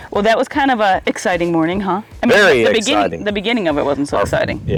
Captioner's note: none